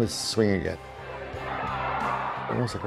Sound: cheering

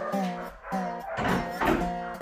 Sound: door clicks

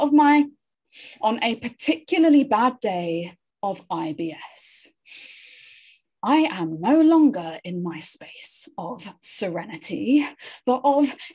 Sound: inhales sharply

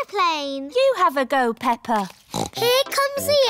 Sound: snorts

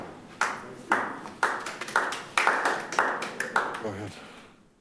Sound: audience applauding

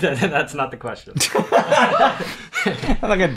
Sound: laughter

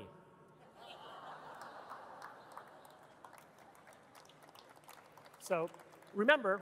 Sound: audience laughing and clapping

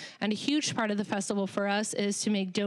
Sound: none

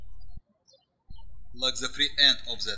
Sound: birds chirping

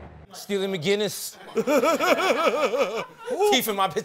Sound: laughs

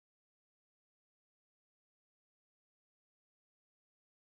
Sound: none

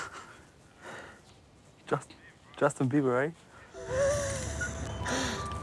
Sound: laughs

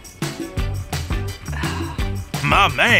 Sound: sighing

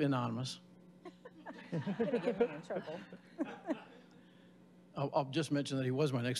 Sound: audience laughing

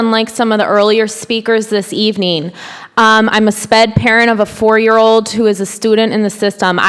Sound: none

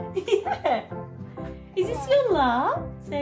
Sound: giggles

